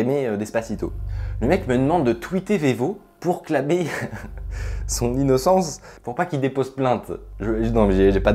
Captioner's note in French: Rire